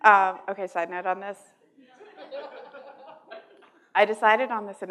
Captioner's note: laughter